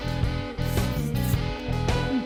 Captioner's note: slurping